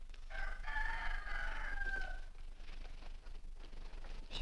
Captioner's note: rooster Crows